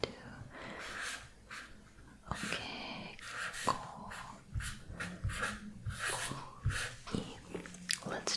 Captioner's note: writing sounds